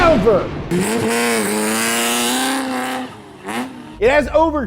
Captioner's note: engine revving